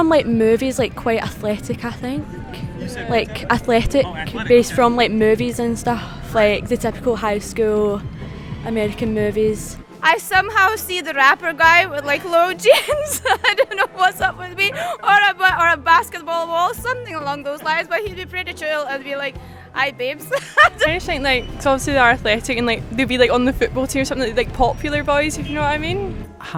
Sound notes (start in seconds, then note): 10.4 laughingly; 20.2 laughs